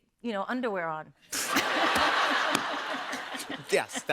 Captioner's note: laughter